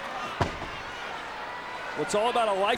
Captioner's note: audience chattering